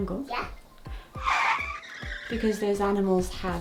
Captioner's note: tires screeching